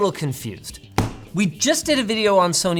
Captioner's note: box thumping